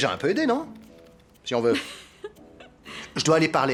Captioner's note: laughs